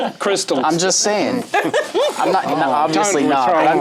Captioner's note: laughs